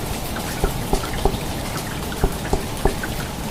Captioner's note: knocks on door